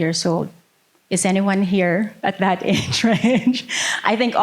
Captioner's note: laughing